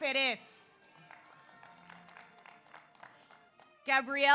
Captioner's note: audience applauds